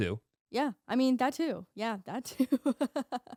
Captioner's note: laughing